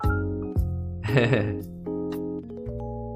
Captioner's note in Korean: 웃음